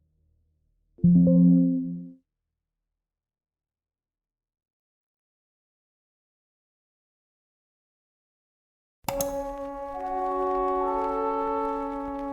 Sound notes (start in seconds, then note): 1.1 computer chimes; 9.2 slow, tense music